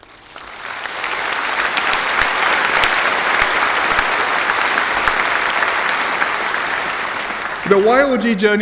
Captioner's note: applause